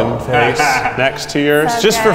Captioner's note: laughs